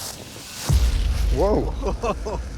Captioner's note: laughs